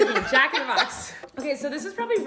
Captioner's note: laughter